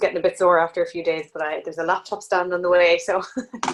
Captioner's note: laughs